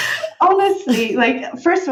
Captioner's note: laughing